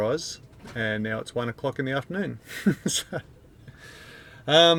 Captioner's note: chuckles